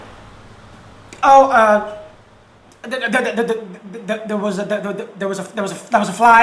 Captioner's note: stutters